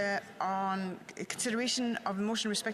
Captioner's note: speaking French